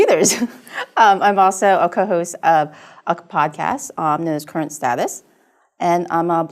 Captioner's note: laugh